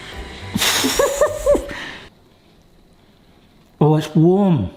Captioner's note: exhales and chuckles